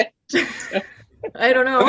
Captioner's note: laughs